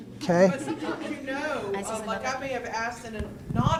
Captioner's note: voiceover